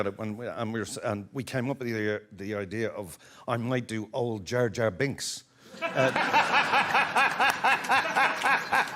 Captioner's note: some laughs